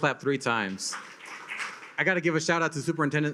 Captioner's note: attendees clap